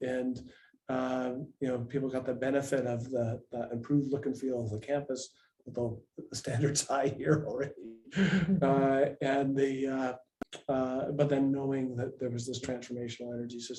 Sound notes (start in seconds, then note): 8.0 laughs